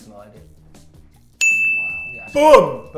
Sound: ding

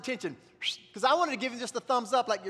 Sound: whistles

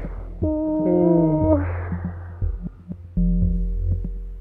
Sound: both groaning

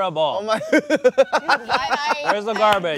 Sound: laughing

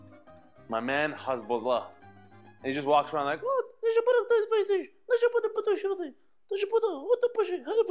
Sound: mimicking Russian jibberish

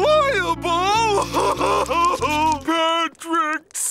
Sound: crying

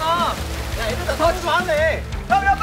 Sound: splash

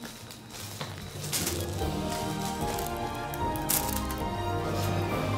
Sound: toy crackling

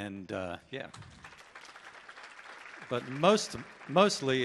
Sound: audience applauding

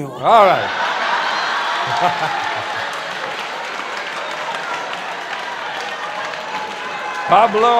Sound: laughter

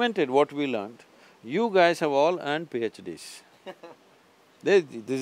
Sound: interviewer laughs

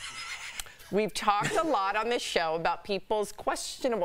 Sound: laughter

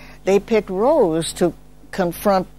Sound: none

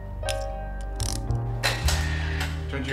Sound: photo snapshot

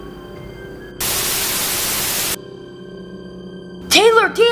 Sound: TV static

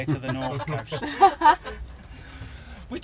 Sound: laughter

